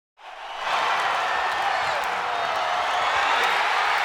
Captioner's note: crowd cheering